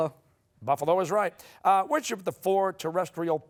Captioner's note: none